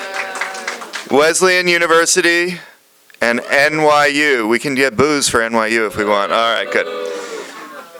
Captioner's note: applause; chorus of boos